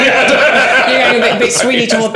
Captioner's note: all laughing